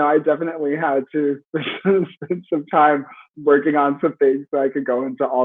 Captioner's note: laughs